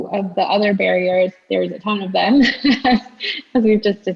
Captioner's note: laughs